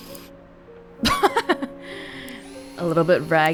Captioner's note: chuckles